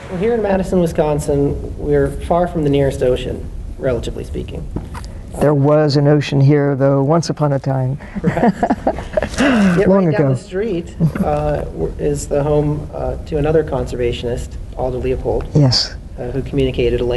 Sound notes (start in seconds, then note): 8.1 laughter